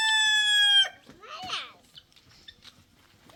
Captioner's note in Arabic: صراخ